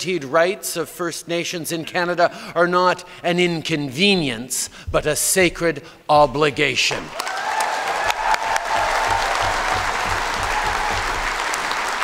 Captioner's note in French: Acclamations et applaudissements